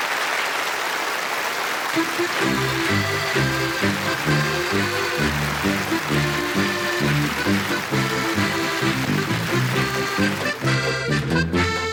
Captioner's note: applause